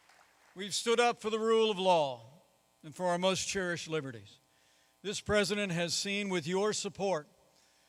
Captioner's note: applause